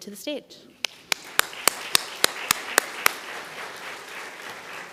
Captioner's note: audience applauding